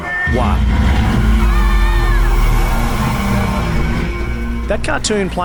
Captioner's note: ride vehicle revving